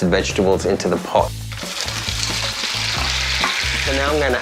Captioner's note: sizzling